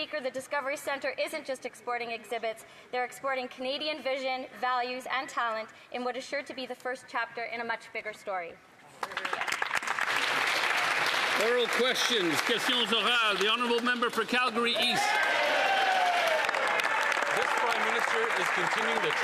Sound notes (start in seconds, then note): 14.4 some Applause